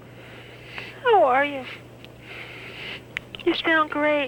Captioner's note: on phone